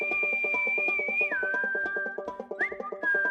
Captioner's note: whistles